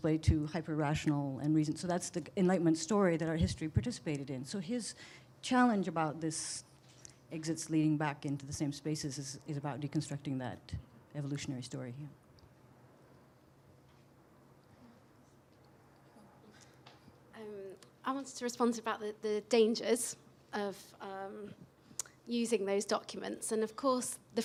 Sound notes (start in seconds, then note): 13.0 pause